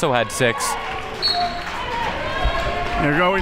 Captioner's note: whistle blows